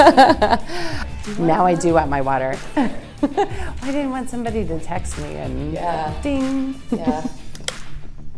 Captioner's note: laughs